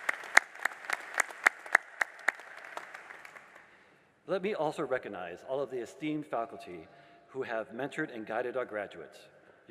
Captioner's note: applause